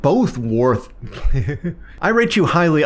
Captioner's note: laughs